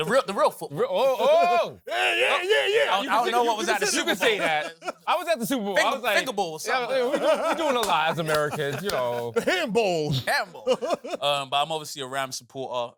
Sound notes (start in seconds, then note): 1.0 laughs; 10.1 chuckles